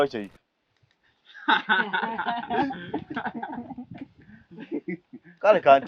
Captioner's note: sarcastic laughs